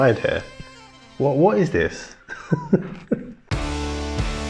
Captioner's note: laughs